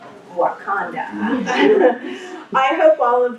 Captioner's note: laughter